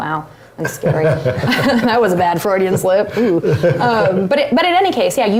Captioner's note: laugh